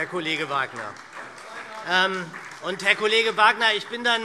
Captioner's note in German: Beifall SPD - Zuruf BÜNDNIS 90/DIE GRÜNEN